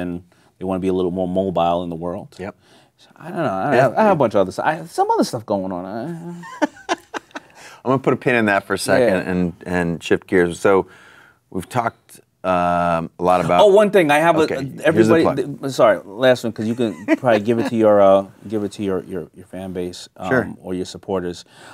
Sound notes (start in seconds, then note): 6.2 laughing